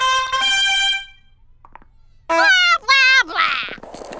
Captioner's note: vomiting sound